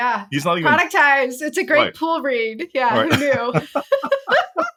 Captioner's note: laugh